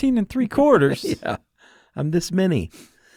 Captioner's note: laughs